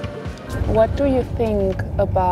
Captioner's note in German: englisch